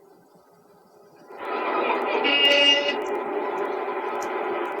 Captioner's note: car horn beeps